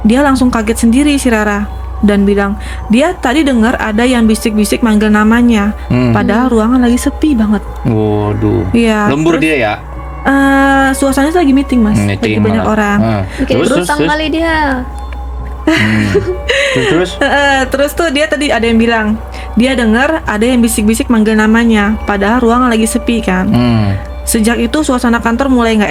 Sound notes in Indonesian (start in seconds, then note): 15.6 tertawa; 15.8 terkesiap